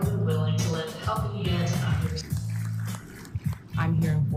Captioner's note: audience applauding